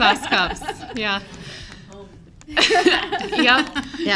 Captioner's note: board members laugh